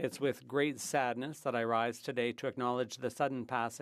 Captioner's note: speaking French